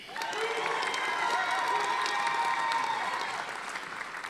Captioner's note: audience applauding